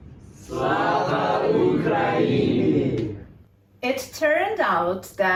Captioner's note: students speaking Ukrainian